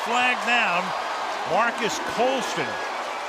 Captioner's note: cheering